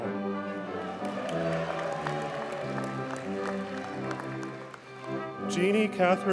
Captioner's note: audience cheers and applauds